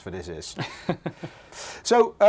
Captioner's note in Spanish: ríe